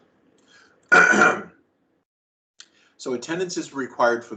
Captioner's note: clears throat